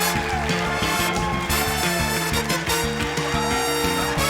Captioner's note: cheering, applause